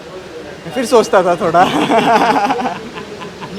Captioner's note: laughs